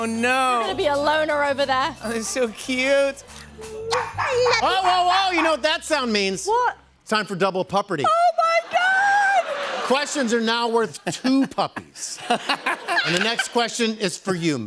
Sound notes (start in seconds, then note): 3.9 puppies barking; 11.6 laughter